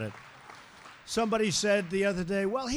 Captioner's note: applause